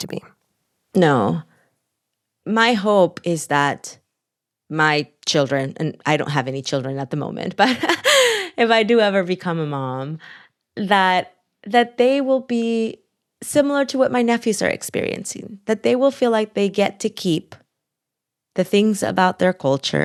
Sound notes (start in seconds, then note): 7.6 laughter